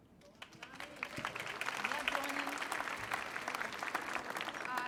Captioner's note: clapping